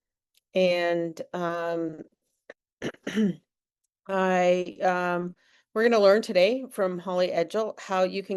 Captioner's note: clears throat